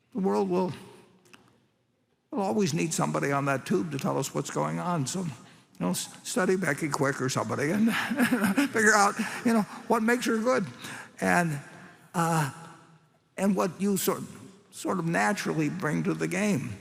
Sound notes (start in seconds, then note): 7.7 laughs